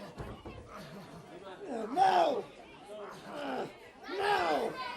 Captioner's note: crowd chatter